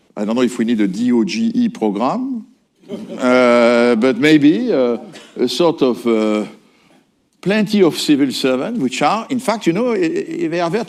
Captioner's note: laughter